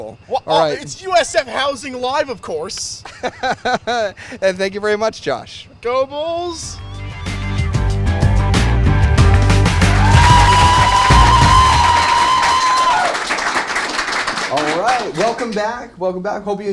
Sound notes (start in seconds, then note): 10.8 cheers and Applause